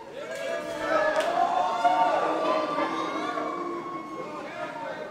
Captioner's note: audience cheering